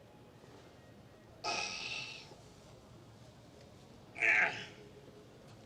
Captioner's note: groans; grunts